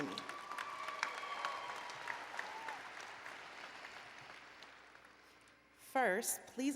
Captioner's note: applause and Cheering